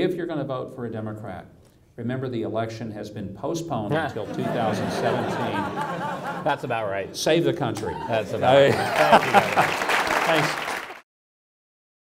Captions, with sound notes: If you're gonna vote for a Democrat, remember the election has been postponed til 2017. (audience laughs) - That's about right. - Save the country. (audience applause)